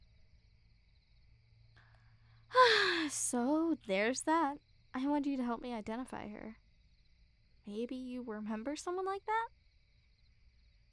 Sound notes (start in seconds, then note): 2.5 sigh